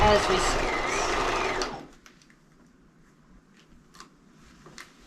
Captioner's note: sewing machine roaring